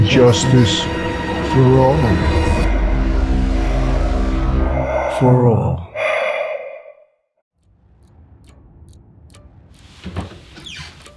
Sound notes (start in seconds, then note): 5.8 breath heaving; 7.7 dramatic music